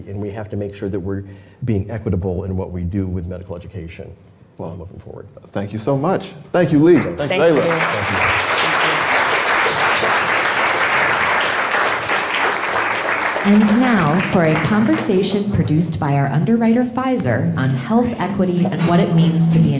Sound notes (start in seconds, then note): 7.0 crowd clapping